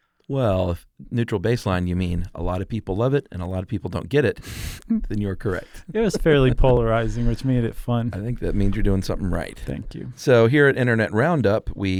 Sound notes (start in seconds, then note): 5.5 laughs